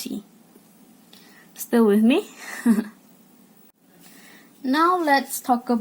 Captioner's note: cute laugh